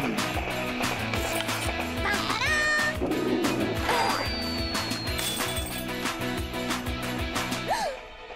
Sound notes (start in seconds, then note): 3.4 grunts; 4.2 bell ringing; 4.8 wind whistling; 7.6 gasps